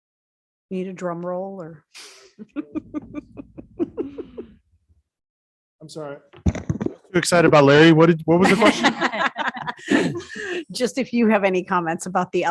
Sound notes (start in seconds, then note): 2.4 woman chuckles; 8.4 all laugh